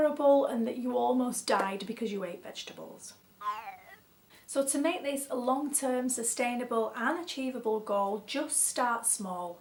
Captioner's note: comedy whistle noise: Ooh